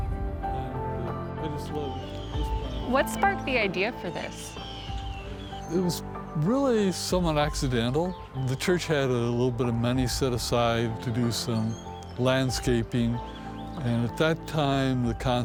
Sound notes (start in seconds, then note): 0.1 gentle music; 4.8 birds cawing